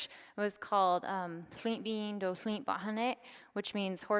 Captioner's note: speaking foreign language